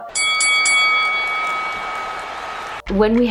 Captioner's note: ding ding ding